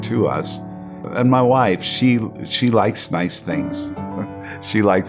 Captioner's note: chuckles